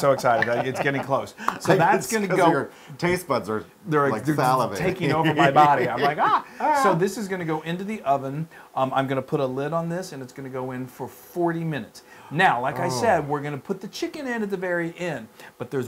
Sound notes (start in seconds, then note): 4.9 laugh